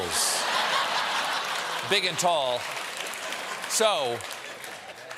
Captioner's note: laughter